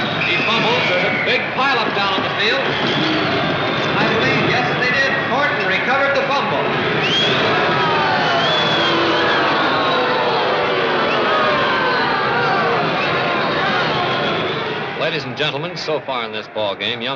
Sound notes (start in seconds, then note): 7.3 crowd booing and jeering